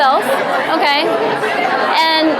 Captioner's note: audience murmurs excitedly